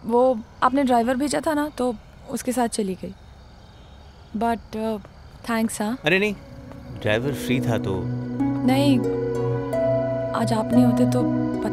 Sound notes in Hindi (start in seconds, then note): none